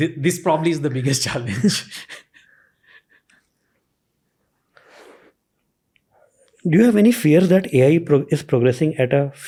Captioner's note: chuckles